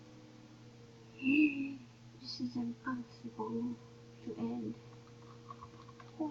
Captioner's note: happy human sounds